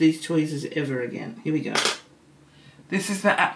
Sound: metal banging

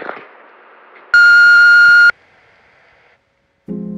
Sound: beep signal end of messages

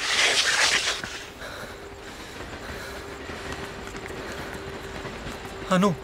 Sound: gasping

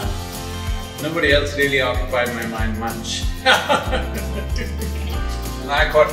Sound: laughs

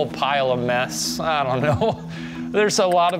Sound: laughs

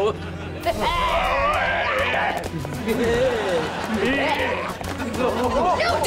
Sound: grunting

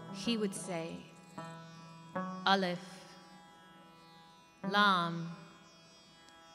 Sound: speaks in foreign language

